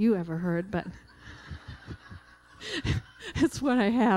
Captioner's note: laughter